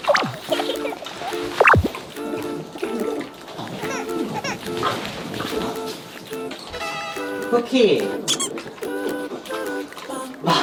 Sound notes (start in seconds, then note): 6.2 chews